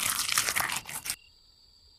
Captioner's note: Squelch